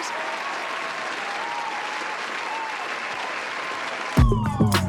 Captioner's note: applause